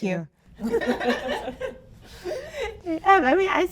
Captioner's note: audience laughing